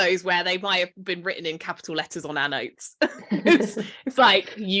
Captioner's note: laughs